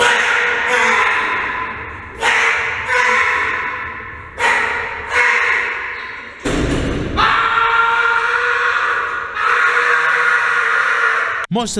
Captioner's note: yelling